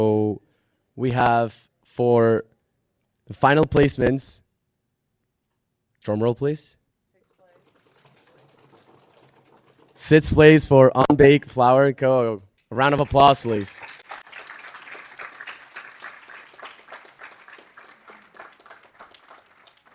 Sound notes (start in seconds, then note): 7.6 drum roll sound; 14.8 audience applauding